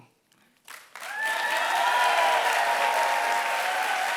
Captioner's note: applause